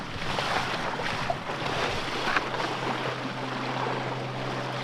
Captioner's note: water splashing